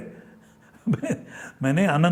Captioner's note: nervous chuckles